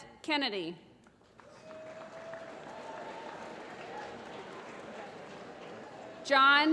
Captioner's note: applause